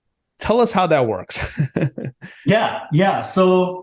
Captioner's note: laughs